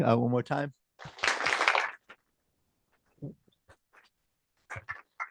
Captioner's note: applause